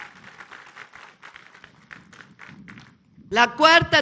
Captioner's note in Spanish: aplausos